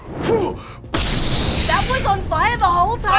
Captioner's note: whooshing; crashing